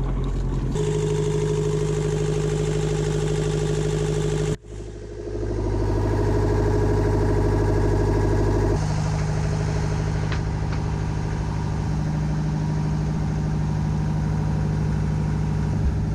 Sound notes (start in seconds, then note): 3.2 engine exhaust sounds